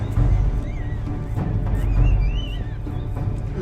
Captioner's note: laughing